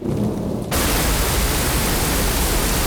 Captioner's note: thunder rumbling